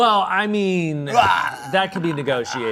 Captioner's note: groans